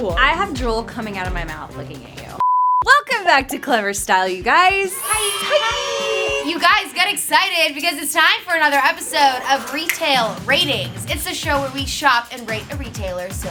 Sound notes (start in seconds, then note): 4.9 cheering